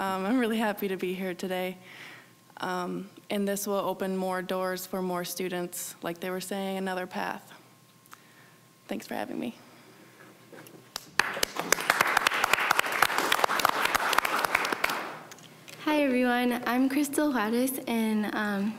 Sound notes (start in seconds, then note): 10.9 applause